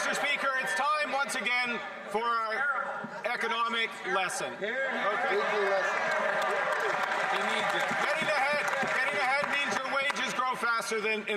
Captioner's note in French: voix de l'interprète